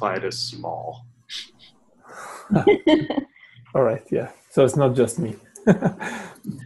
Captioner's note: laugh